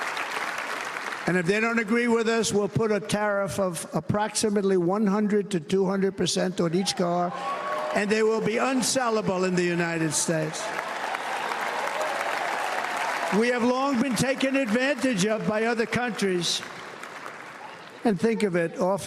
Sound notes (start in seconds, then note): 7.3 cheers and applause